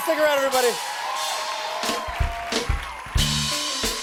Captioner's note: cheers and applause